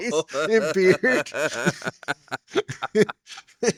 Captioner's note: laughing